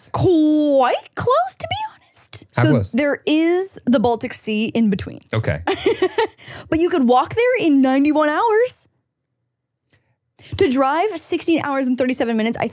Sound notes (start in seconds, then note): 6.3 laughs